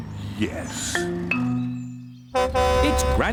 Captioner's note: horn honks